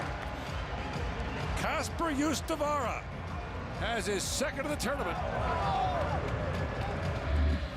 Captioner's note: cheering and Applause